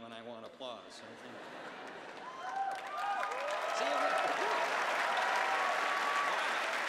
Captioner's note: cheers and applause